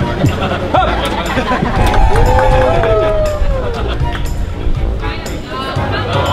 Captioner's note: yelling; crowd applauding